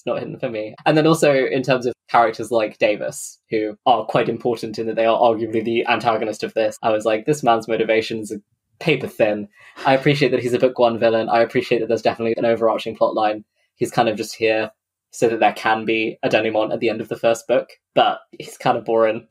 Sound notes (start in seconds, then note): 9.6 laughs